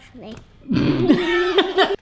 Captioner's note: snorts; laughs